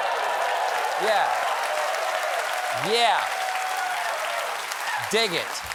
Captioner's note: applause